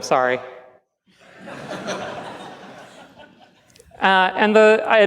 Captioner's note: laughs